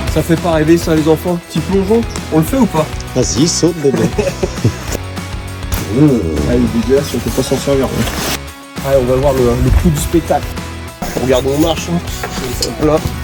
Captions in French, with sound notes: Ça ne fait pas rêver ça ? On se fait un petit plongeon ou pas ? "Yes vas-y ! Saute !" (rires) C'est dégueu, on ne pourra pas s'en servir" On va voir le clou du spectacle. Là on regarde où on marche !